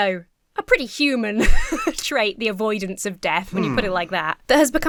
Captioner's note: laughs